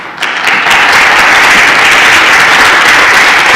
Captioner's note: applauding